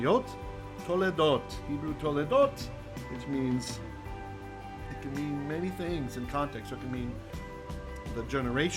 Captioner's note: Hebrew